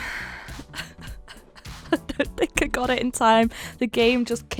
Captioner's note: sighs; laughing